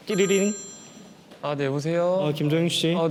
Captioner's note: ringing